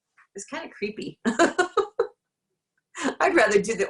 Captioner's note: laughs